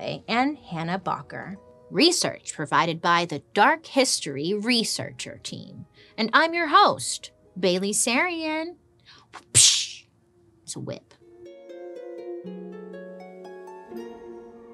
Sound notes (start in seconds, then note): 9.5 imitates whip cracking; 11.1 mysterious music